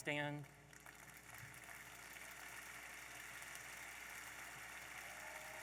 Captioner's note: audience applauding